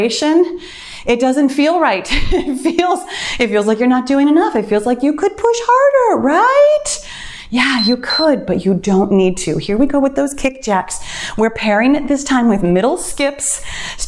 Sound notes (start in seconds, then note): 7.7 timer beeps